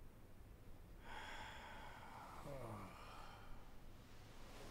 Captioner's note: Mark groans